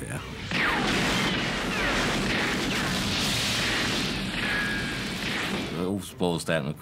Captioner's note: gunfire